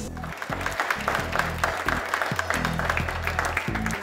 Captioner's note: applause